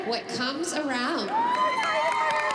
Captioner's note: cheering